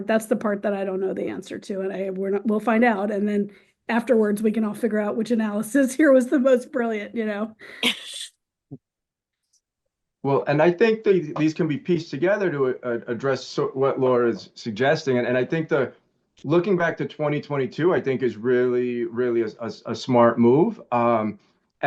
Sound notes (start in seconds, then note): 7.8 chuckles